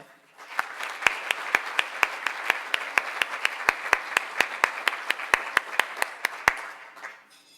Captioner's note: applause